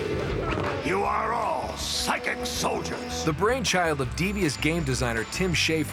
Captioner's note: shouts